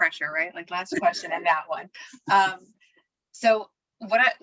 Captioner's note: laughter